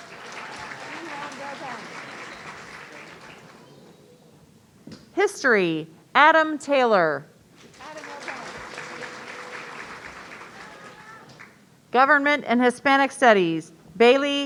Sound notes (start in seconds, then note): 0.0 audience cheering; 7.7 audience applauding